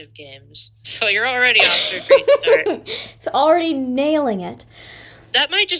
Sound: laughter

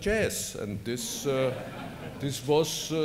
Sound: laughter

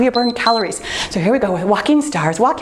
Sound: timer beeps

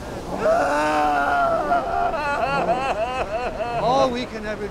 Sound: cries

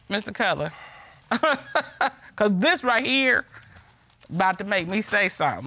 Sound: chuckles

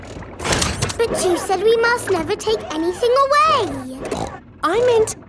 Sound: snorts

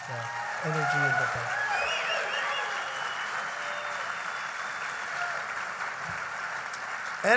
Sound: applause

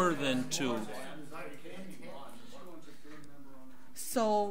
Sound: overlapping chattering

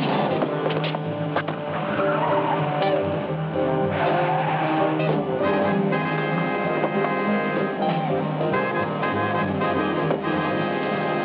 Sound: gun shots

